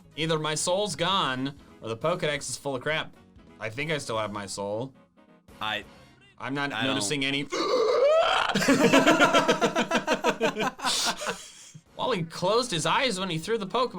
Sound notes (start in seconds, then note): 7.4 yelling; 7.5 laughing